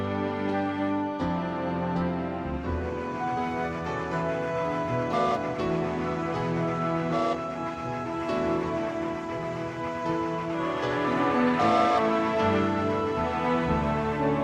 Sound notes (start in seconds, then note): 0.0 uptempo orchestral music; 5.0 train whistle; 11.4 swelling orchestral music